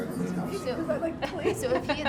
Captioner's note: laughter